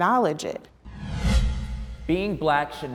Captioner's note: air whooshing